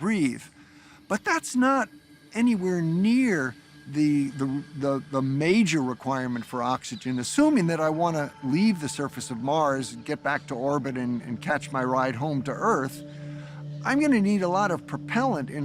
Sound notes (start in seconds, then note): none